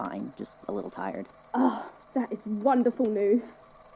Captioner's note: relieved sigh